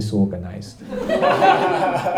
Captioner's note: laughter